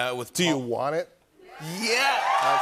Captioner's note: cheers and applause